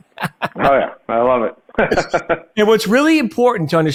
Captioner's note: laughs